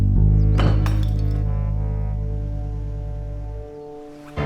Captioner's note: dramatic music; clattering